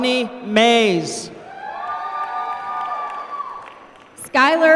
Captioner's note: applause